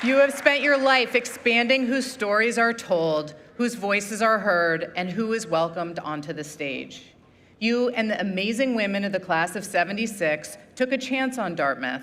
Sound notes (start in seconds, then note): 2.4 applause